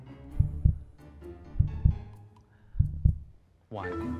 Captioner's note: heartbeat